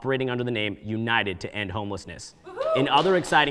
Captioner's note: audience member cheers; scattered applause